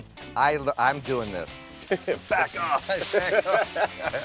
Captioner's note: laughs